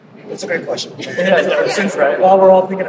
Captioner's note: laughing